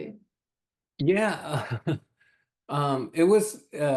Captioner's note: laughs